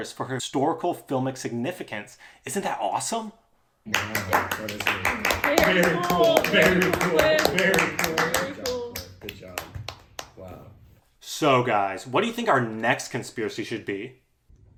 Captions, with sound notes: for historical filmic significance isn't that awesome? [applause] very cool very cool very cool good job wow so guys what do you think our next conspiracy should be?